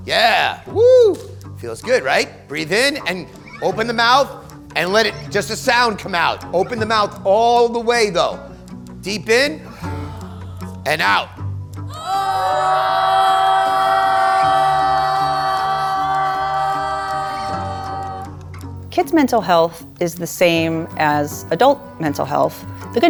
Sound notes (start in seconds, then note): 9.6 kids deep inhales; 11.8 kids yawning